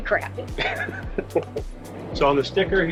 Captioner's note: laughs